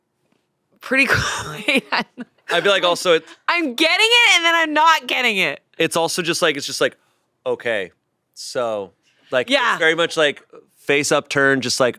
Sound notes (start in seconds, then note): 1.2 laughs